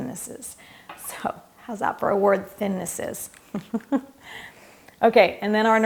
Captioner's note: laughs